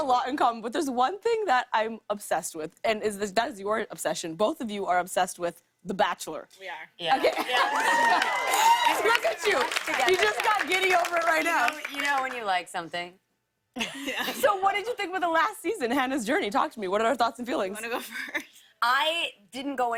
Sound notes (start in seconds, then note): 7.4 cheers and applause; 13.7 laughter